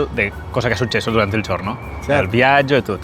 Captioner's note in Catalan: en italià